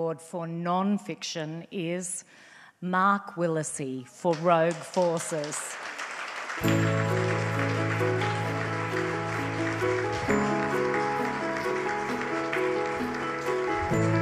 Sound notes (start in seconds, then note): 5.9 audience applauds; 6.4 bright inspirational music